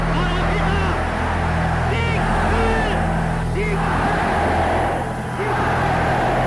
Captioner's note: crowd chanting in foreign language